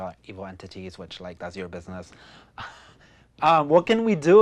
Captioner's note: chuckles